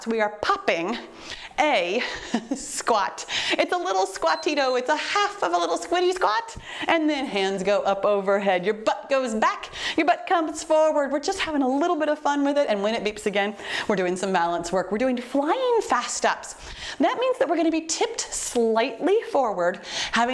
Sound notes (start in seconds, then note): 4.1 timer beeps